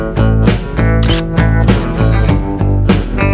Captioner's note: photo click